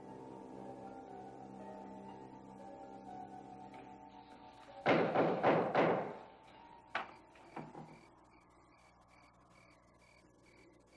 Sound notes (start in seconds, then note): 7.0 crickets chirping